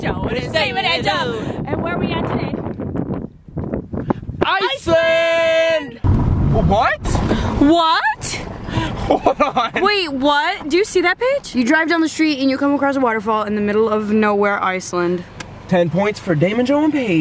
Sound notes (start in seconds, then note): 8.8 laughs